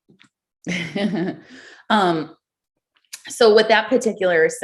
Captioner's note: chuckles